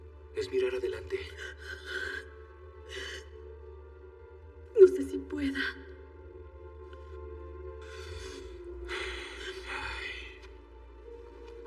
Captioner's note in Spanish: Solloza